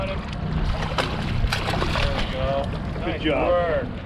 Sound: fish splashing

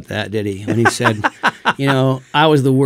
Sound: laughs

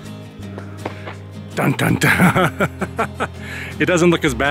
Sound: laughter

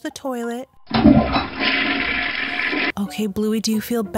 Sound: toilet flushes

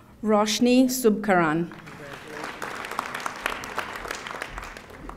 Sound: audience applauding

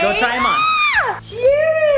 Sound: squeals

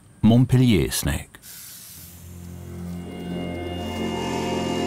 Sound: hissing

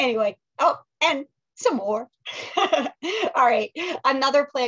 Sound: laughs

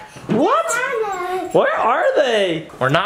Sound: babbling

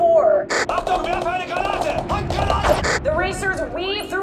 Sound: gunfire and German screaming

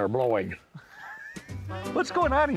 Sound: laughs

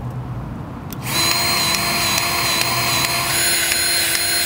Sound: grease gun revving

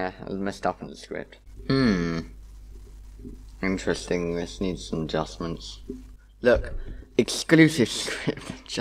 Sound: laughing

